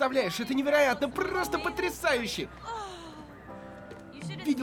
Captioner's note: sighs